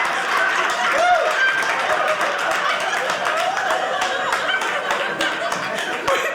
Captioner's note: audience laughing; audience cheering